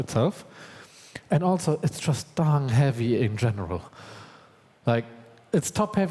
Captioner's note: exasperated